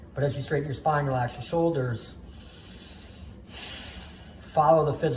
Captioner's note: deep breath